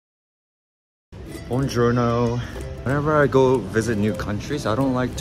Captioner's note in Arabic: الإيطالية